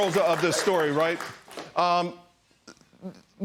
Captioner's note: applause